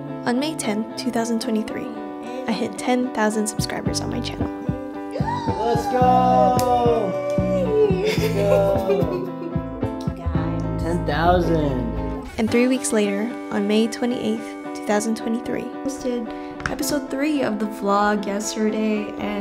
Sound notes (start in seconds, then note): 5.2 gasps; 5.2 gentle music continues; 7.0 laughing